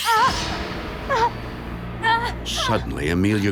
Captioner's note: groaning in pain